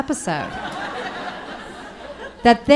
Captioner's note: audience laughing